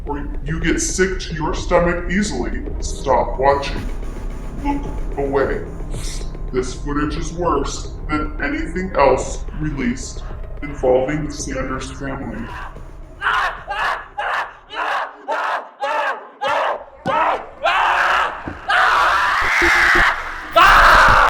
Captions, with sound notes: or you get sick to your stomach easily, stop watching. Look away. This footage is worse than anything else released involving the Sanders family. (Greg screaming) (Greg screaming)